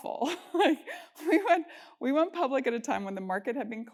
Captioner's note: laugh